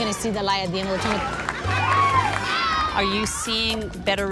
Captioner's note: cheering; clapping